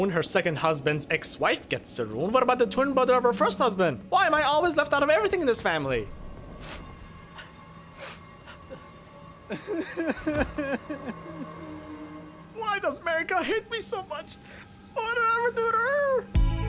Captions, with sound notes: her second husband’s ex-wife gets a Rune, what about the twin brother of her first husband? Why am I always left out of everything in this family? *humorous sniffling* *exagerrated crying* Why does Marika hate me so much? What did I ever do to her?!